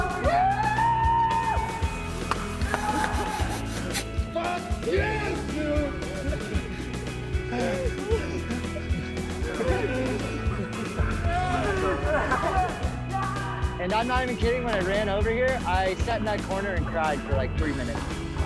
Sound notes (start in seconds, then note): 2.2 clapping off camera and the spray of champaign; 7.4 crying